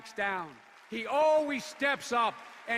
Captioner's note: applause